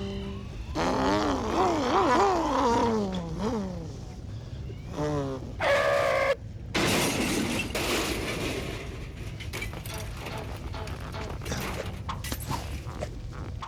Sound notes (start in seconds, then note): 0.2 <i> imitating motorcycle engine</i>; 5.3 <i> tires skid</i>; 6.7 <i> crash</i>